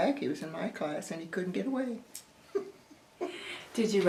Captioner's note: laughs